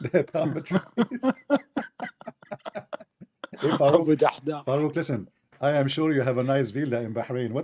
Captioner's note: Ketawa